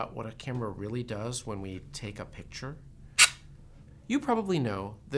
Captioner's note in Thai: เสียงกล้อง